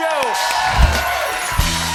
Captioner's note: cheering and applause